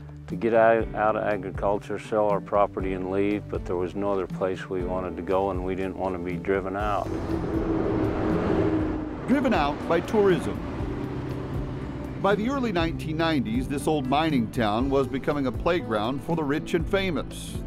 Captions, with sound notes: get out of agriculture or sell our property and leave. But there was no other place we wanted to go and we didn't want to be driven out. [sound of bus passing] >>Driven out by tourism. By the early 1990s this old mining town was becoming a playground for the rich and famous.